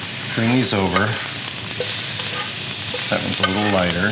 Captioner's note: sizzling